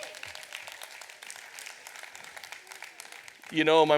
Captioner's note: audience applauds